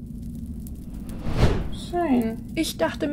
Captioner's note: woosh